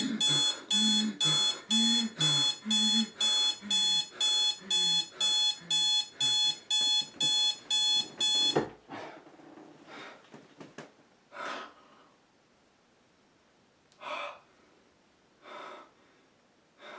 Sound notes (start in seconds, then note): 0.0 fast and heavy breathing; 8.5 beeping stops; 15.4 heavy breathing